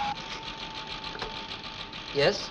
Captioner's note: machine whirring